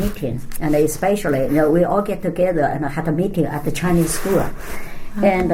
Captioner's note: shuffling sounds